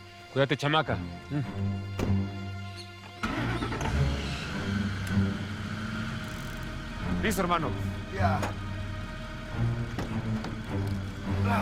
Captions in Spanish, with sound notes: CUÍDATE, CHAMACA. ¿HUM? [Ruido del vehículo] LISTO, HERMANO. DRAKE: YEAH.